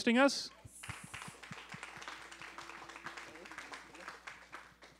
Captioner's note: applause